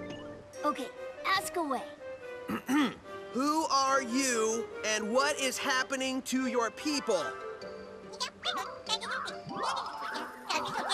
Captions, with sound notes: Okay, ask away. (Clears Throat) Who are you and what is happening to your people? (Speaking Gibberish)